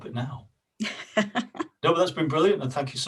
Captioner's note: laughs